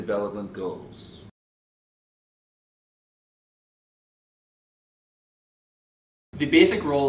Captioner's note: silence